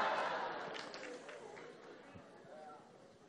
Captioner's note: laughter